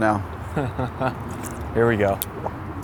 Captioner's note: laughs